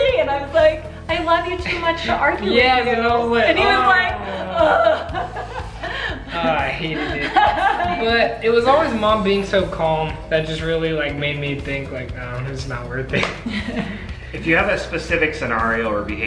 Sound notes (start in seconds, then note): 4.7 frustrated groan